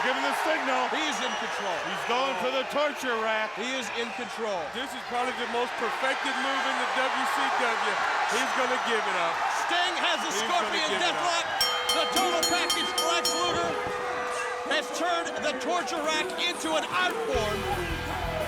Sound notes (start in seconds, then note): 7.7 crowd cheering; 11.4 bell ringing